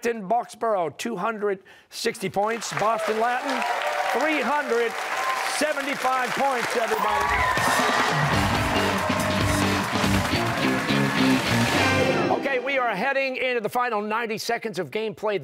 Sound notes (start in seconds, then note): 8.2 cheers and applause